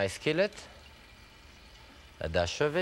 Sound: gentle sizzle

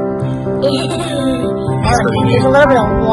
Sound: laughing

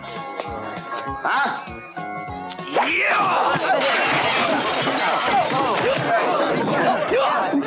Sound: glass crashing; crowd commotion

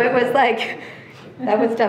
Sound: trustees laughing

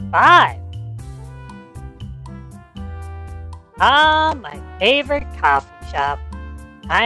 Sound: excited

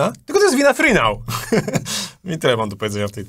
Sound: laughter

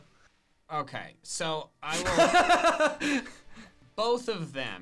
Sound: laughs

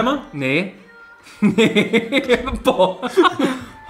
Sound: laughs

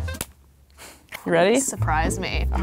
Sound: upbeat music; wax strip pops

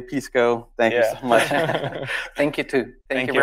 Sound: group laughs

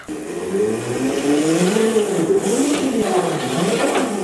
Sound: engine revs

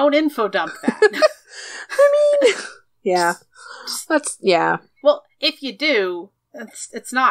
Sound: laughs

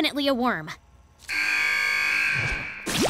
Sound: buzzing

